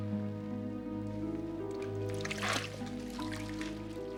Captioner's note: water lapping